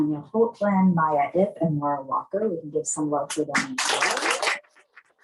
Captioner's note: applause